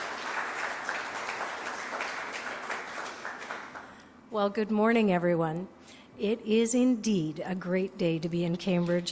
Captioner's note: applause